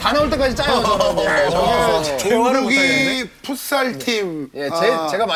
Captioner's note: men's typical workout pretentiousness + sarcastic talk